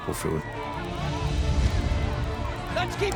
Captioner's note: crowd cheering